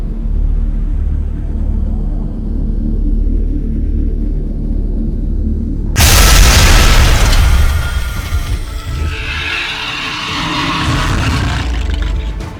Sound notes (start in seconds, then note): 5.9 ground crashes; 8.6 beast shrieks